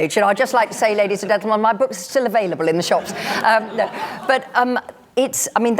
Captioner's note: laughter